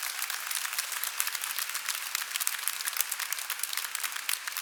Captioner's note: applause